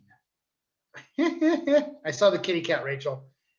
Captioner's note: laughing